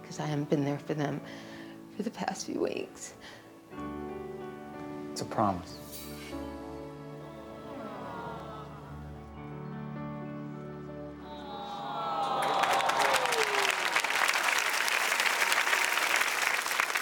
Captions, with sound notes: 'cause I haven't been there for them for the past few weeks. - It's a promise. (audience aws) (audience cheers and applauds)